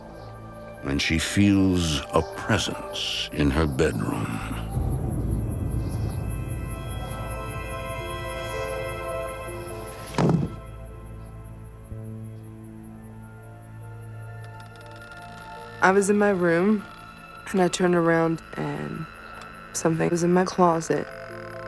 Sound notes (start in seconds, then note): 6.0 wind whistling; 9.2 whistling stops